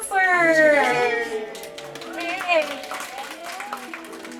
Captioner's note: applause